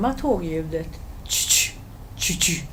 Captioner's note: mimics rail sounds